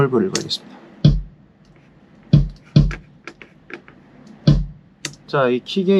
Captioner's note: kick